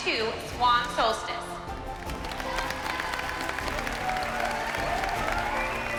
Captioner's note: bright music playing; cheering